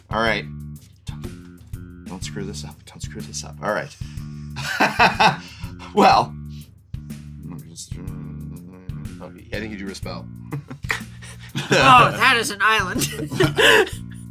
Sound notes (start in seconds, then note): 4.6 laughs; 6.8 mumbles to himself; 10.8 laughs